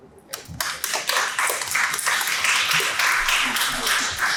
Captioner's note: audience applauds